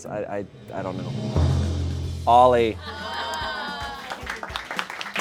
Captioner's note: audience exclaims; audience applauds